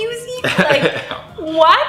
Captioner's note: laughing